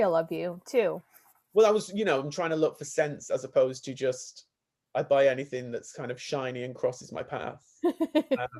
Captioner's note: laughs